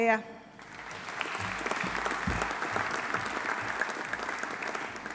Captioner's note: audience applauding